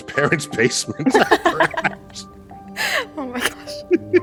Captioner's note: both laughing